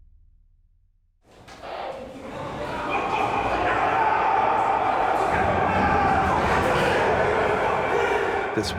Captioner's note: men yelling